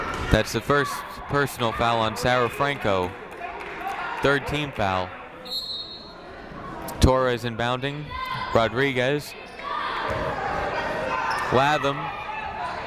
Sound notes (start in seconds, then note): 0.0 people shouting in the crowd; 5.4 whistle tweeting; 9.4 people shouting in the crowd